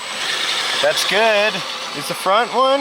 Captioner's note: wheel whirring